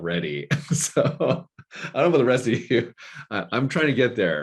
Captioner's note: chuckling